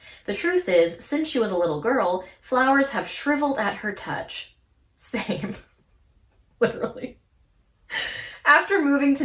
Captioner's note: laughs